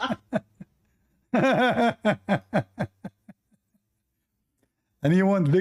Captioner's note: Ketawa